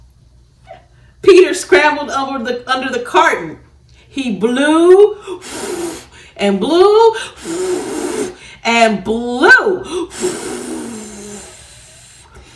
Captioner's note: blows without whistling